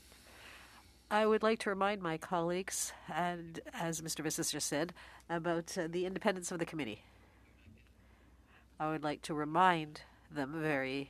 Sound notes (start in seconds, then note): 3.3 speaking French